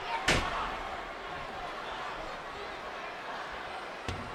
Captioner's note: crowd murmuring